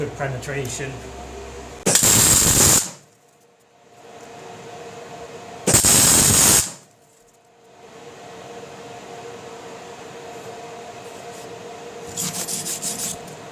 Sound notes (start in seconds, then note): 1.8 loud sparking/welding